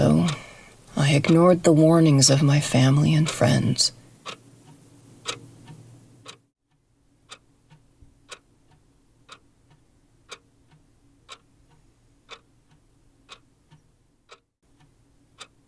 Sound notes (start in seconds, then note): 2.3 clock ticking